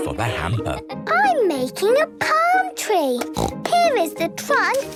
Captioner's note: snorts